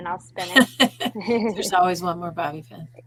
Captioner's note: laughing